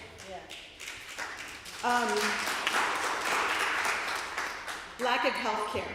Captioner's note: applause